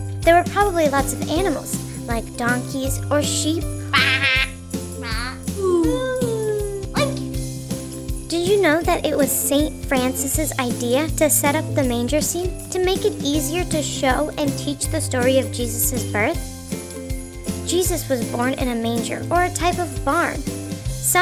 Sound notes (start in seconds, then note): 3.9 children mimic sheep; 5.0 children mimic cows; 7.1 child mimics pig